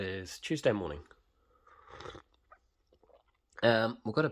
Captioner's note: violently sips at his morning coffee